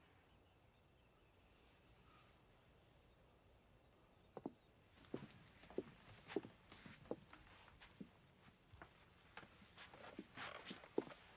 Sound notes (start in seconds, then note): none